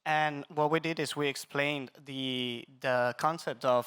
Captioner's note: none